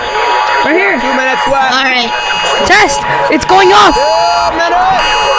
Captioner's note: FEMA Emergency Alert Test Sound